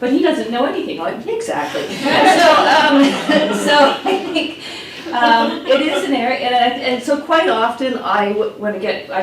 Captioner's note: laughs